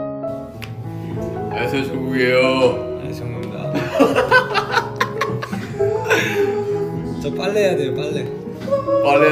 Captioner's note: laughs